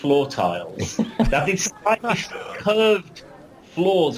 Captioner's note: laughs